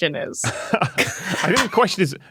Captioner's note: group cracks up